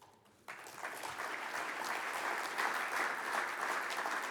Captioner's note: audience applauds